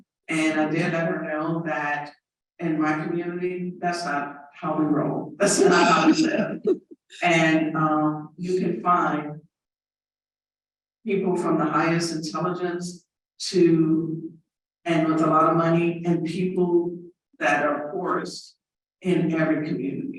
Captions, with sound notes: and I did let her know that in my community that's not how we roll. [laughter overlapping speaker] we said, and you can find people from the highest intelligence to and with a lot of money and people that are poorest in every community.